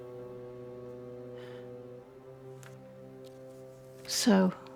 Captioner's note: Judith sighs